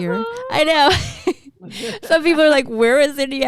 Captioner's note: chuckles